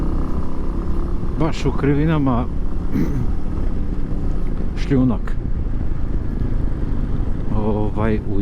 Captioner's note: coughs